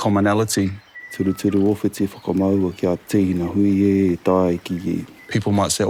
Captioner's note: chanting continues